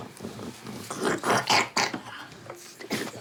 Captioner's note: coughs